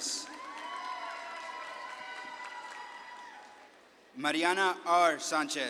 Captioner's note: audience claps and cheers